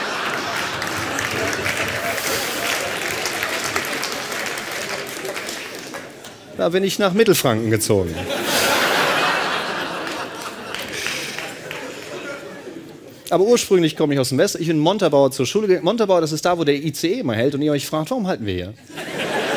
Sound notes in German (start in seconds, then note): 0.0 Lachen und Klatschen; 8.1 Lachen